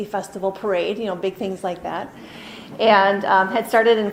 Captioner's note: chuckling